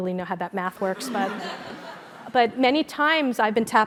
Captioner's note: laugh